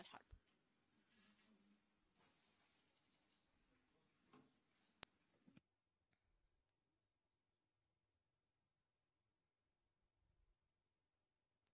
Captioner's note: silence